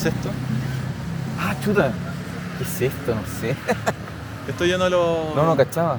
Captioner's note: laughs